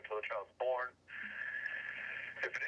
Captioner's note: inhales deeply